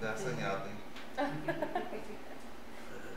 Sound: laughs

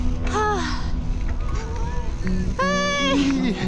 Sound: sighs

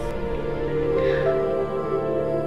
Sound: sighs

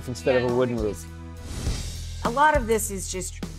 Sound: swoosh

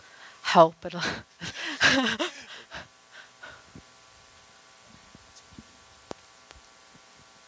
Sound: laughter

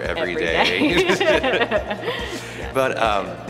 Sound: both laughing

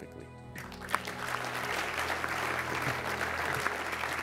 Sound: audience claps

